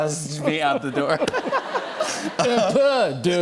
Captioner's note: laughter